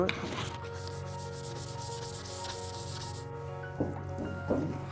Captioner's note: sandpaper scratching